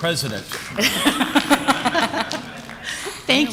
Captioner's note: laughter